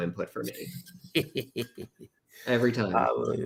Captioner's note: laughs